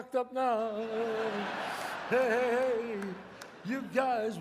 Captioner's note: audience laughs